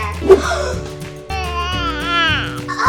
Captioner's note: gasps; coos